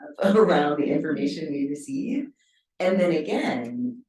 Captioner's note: chuckles